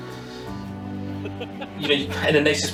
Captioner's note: laughter